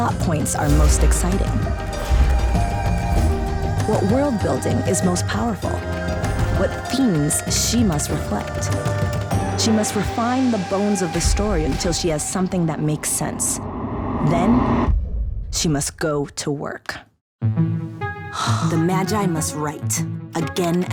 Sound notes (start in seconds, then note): 18.1 sighs